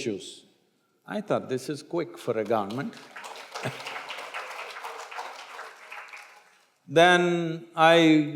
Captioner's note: applause